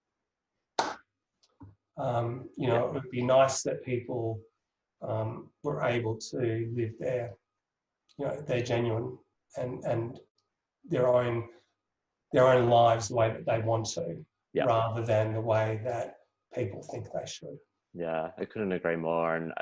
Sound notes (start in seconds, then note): 0.8 claps